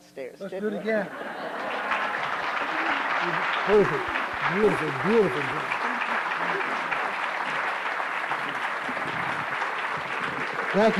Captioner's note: applause